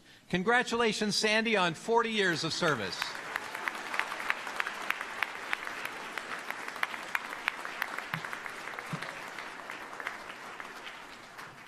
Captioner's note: applause